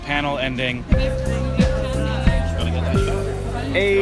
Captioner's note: bell tones